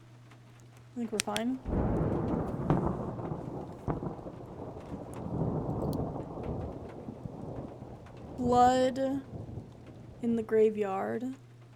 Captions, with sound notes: I think we're fine. [Flashlight Clicks Off] [Thunder Rumbling] Blood in the Graveyard.